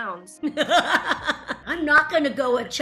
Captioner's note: laughter